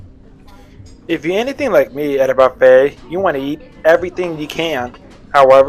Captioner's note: voiceover